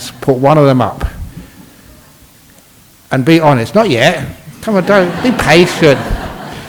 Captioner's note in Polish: Śmiech